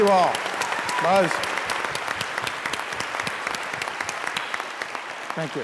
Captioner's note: continuing applause